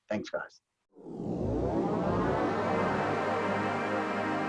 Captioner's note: logo swooshing